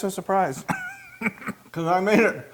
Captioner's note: laugh